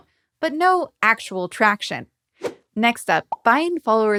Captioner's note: logo whooshing